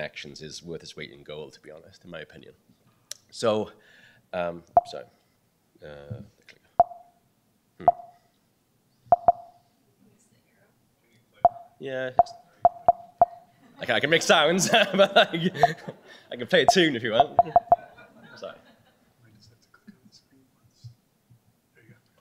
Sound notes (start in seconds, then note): 4.7 beeping; 14.6 laughter